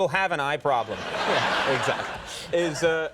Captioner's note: audience laughing